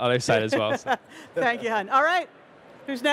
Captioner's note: laughs